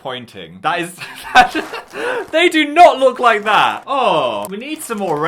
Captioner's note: laughs